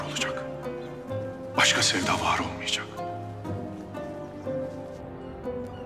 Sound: Abdulhamid external audio

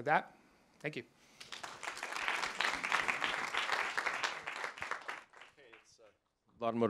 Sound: applause

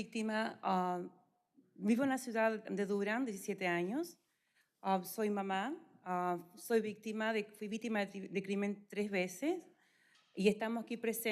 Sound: speaking spanish

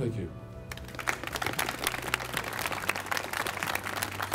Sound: audience applauds

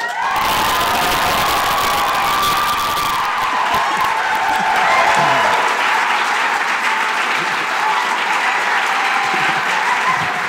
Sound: applause

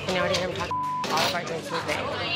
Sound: beep

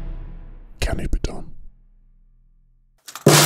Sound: whispers; marble hitting snare drum, two times

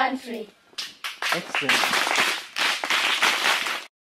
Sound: clapping

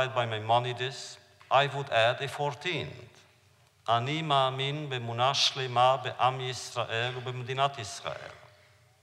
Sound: foreign language

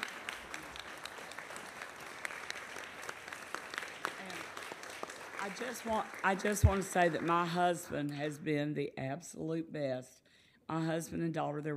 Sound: applause

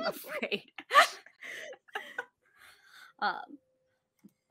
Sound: all laughing

